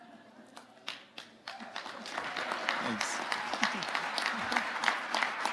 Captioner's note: audience applauding